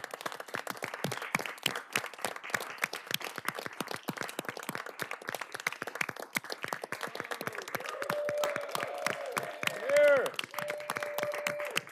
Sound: cheers and applause

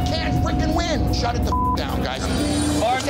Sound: beep

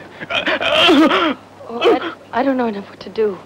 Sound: Frenando groaning

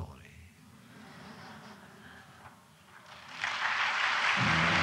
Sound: laughter; applause

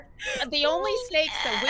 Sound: players laughing

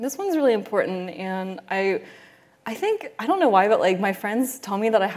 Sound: none

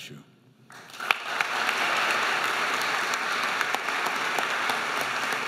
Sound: audience applauding

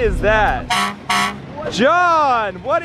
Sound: horn honking

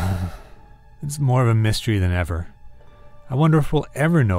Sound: sighs

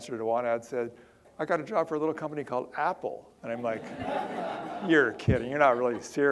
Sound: audience laughter

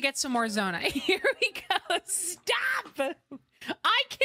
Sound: laughter

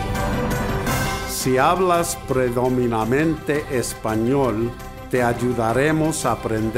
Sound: speaking in foreign language

